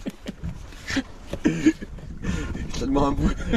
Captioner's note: laughs